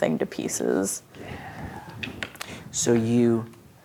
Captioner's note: quietly